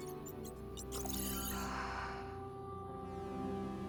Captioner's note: exhale